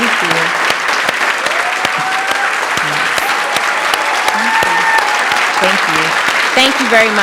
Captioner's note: applause and Cheering